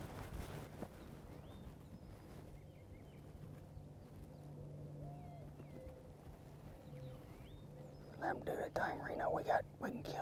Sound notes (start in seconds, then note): 8.5 whispering